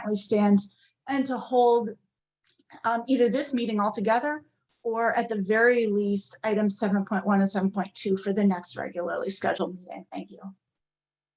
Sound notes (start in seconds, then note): none